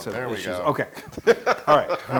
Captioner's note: laugh